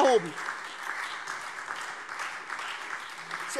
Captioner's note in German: Beifall SPD und Freie Demokraten